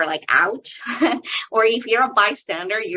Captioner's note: chuckling